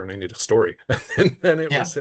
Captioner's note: laughing